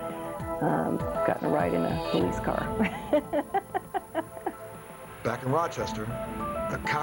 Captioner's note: laughs